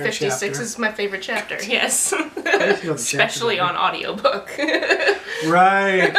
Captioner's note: laughter